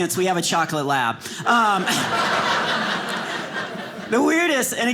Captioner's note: audience laughing